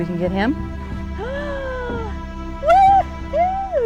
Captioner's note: gasping